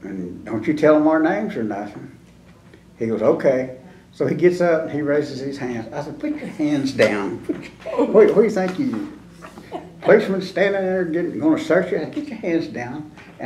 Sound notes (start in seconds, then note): 9.5 laughter